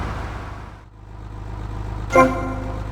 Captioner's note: phone ringing